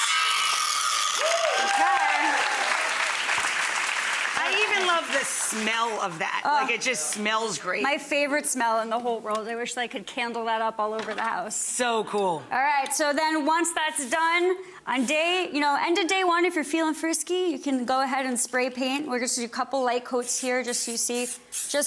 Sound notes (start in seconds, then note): 1.2 audience applauding